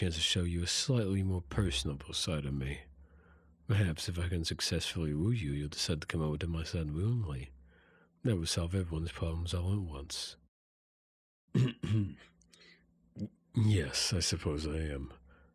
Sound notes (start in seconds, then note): 11.5 clears Throat